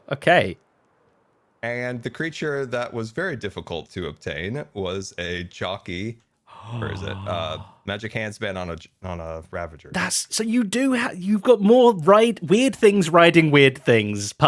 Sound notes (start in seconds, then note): 6.5 gasps